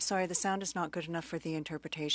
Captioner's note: speaking French